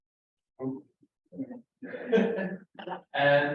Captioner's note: laughing